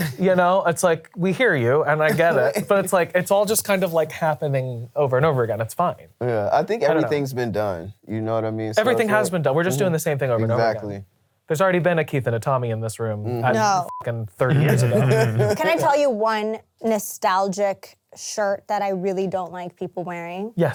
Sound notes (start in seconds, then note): 13.6 beep; 14.4 all laughing